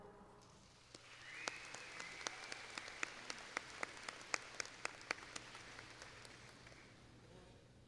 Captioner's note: applause